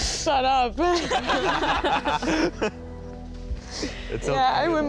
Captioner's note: all laugh; laughs